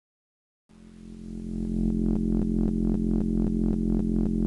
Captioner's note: container hums